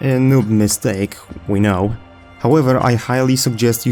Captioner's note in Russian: Звуки негодующей Айрис